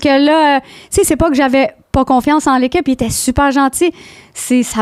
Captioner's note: in french